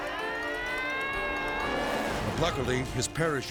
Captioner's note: spectators shouting